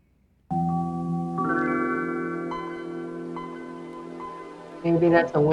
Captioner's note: gentle chiming sound